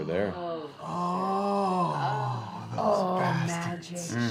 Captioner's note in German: Keuchen